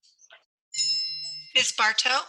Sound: bell dings

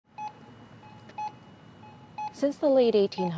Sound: alarm beeping

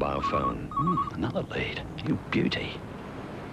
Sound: phone rings

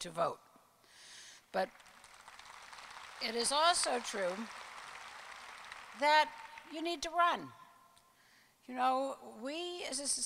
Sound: applause

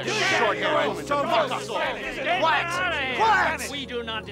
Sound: all shouting

